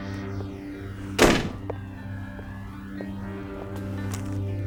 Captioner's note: slamming; somber synthesizer and piano music